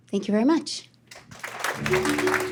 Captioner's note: applause